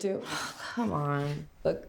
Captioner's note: sighs